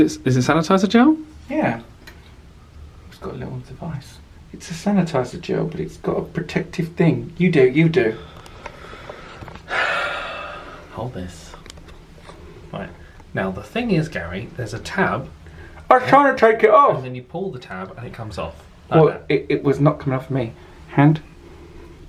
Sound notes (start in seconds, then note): 8.2 sighs